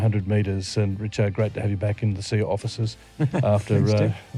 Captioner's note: laughter